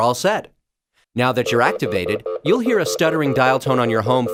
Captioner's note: sound: phone stuttering dial tone